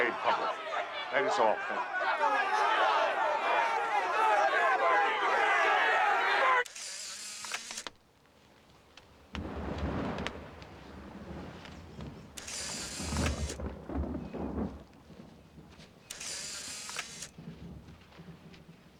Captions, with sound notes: THAT IS ALL, THANK YOU. BURN IN HELL! [camera clicking] [thunder clapping] [camera clicking] [camera clicking]